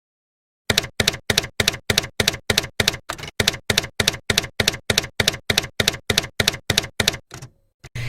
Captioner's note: typewriter keys clacking